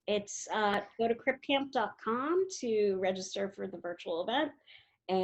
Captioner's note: none